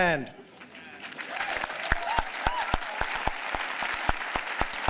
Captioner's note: applause